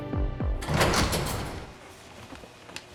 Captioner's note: door opens